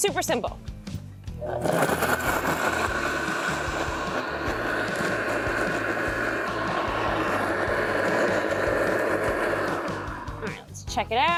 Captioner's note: blender whirring